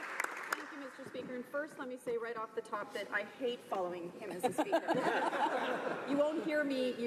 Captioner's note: applause